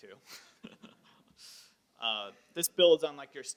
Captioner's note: laughs